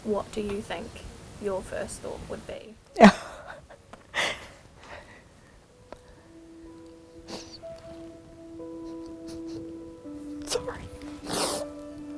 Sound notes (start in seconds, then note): 3.0 laughs sadly